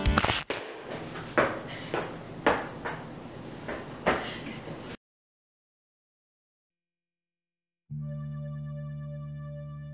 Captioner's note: ripping/tearing